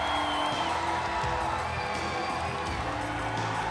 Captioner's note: crowd cheering